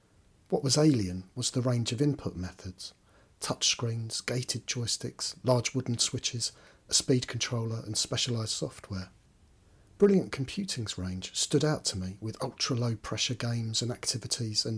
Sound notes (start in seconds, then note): none